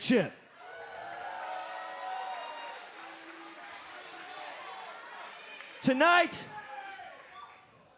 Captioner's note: cheers and applause